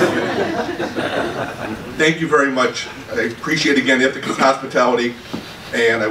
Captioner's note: laughter